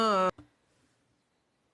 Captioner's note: speaking French